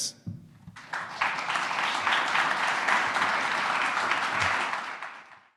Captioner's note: audience applauding